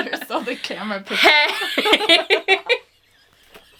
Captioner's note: laughs